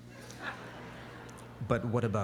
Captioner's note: laughter